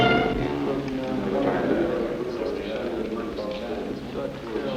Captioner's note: men chattering